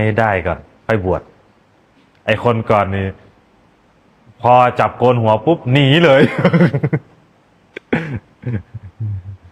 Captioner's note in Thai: เสียงหัวเราะ